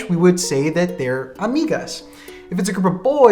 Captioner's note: spays it in foreign language